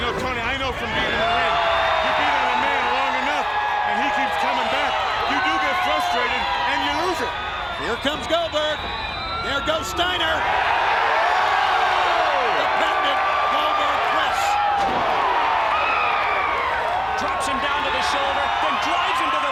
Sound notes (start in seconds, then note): 11.0 crowd cheers